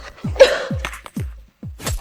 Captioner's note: cough